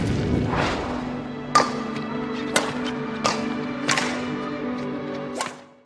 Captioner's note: shuttlecocks smashing continues